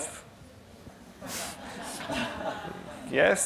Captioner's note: laughter